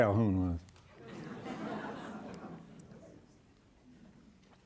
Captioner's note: audience laughing